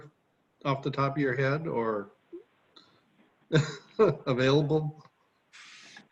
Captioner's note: laughs